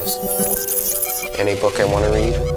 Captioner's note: rapid beeping